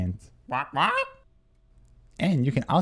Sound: squawking

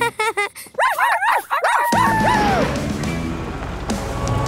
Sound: laughing and barking

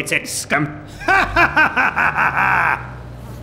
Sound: laughs in French

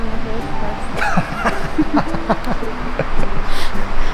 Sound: laughing

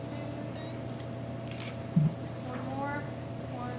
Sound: camera clicking

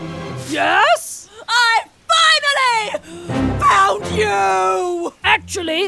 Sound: Linda, yelling

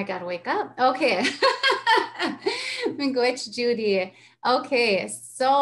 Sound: laughs

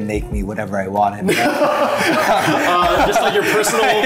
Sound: both laughing

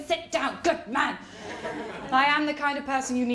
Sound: laughter

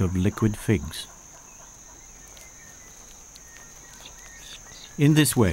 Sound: birds chirping

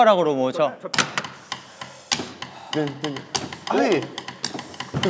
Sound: chopstick beat

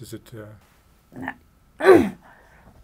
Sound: clears throat

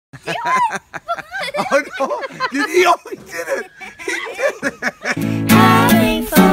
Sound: laughter

